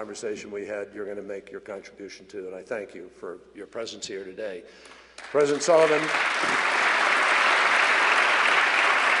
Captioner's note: applause